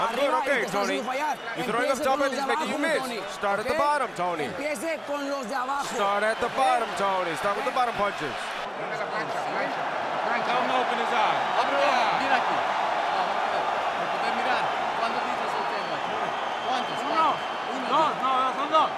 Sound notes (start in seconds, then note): 9.6 people talking in Spanish